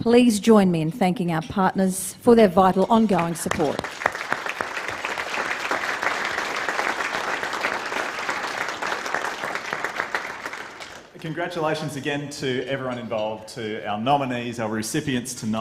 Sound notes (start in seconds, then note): 5.7 applause